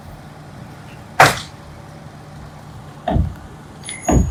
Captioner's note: nail gun firing; wood thudding